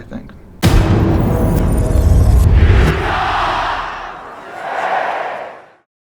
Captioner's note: loud bang, followed by cheering